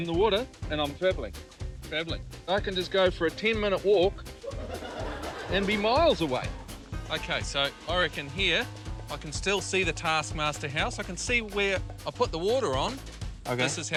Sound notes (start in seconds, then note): 4.4 laughter